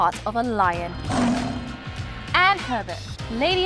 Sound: lion roars

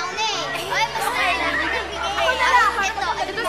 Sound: indistinct chatter

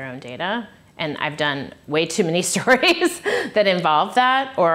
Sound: laughs

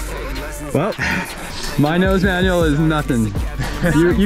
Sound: sighs

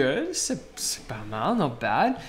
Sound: speaking in foreign language

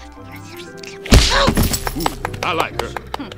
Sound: grunting

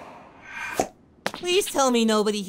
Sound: pop!

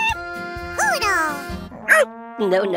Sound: barks

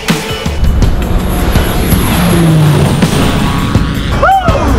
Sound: airplane taking off

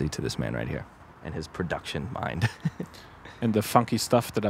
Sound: laughs

